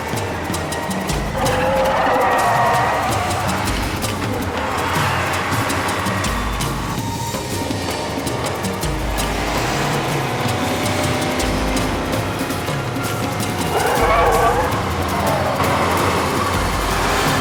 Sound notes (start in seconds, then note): 3.7 dramatic music; 3.7 tires squealing